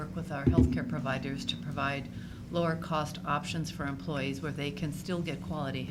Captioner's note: none